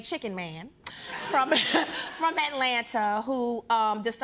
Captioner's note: laughs